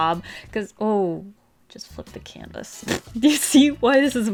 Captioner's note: laughs